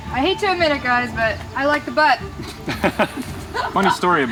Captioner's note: group laughs